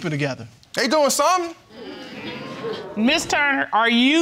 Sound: audience exclaims

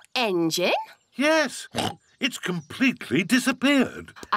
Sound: oinks

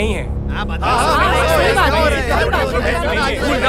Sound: chaos amongst passengers

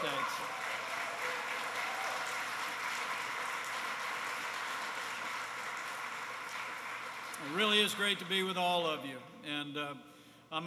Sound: applause

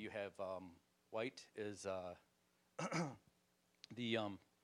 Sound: clearing throat

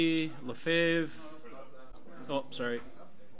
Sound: overlapping chattering

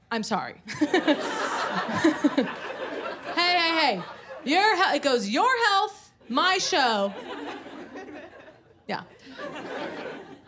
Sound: laughs

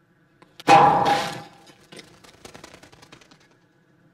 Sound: loud crash!

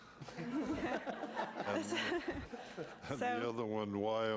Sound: audience laughing

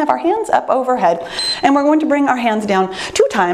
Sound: timer beeps

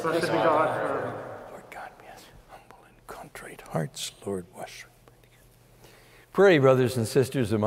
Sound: whispering

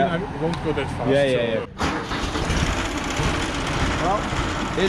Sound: tractor rumbling

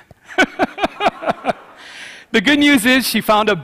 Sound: laughs

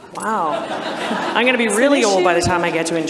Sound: audience laughs

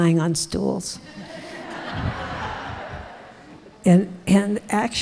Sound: audience laughing

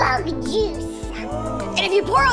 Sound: audience whoa

